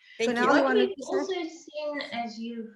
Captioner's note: overlapping chattering